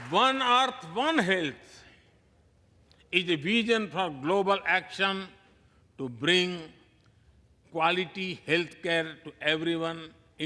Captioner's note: applause